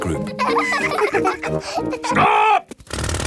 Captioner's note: children laughing